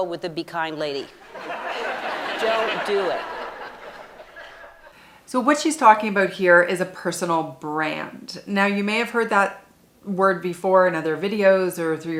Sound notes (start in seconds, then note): 1.1 people laughing